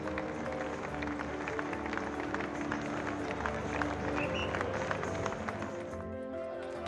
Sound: people cheering

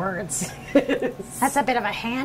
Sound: laughter

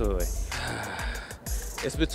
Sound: sighing

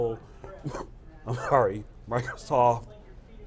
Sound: cough

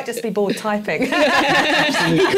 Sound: laughter

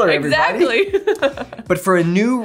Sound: laughs

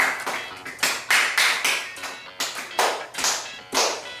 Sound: clap!

